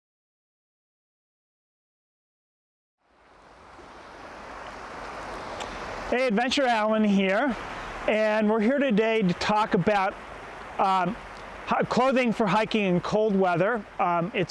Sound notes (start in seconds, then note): 3.4 water rushing